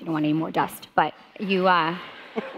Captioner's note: audience laughing